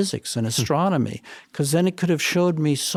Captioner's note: chuckles